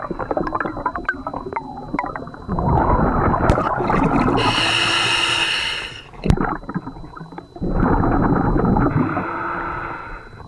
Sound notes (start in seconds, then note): 3.5 regulator hissing; 4.7 water burbling